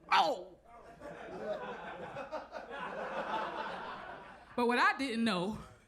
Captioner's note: audience laughs